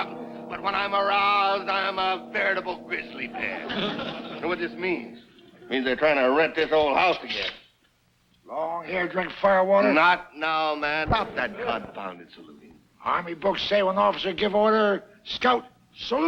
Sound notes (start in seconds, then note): 3.4 audience laughs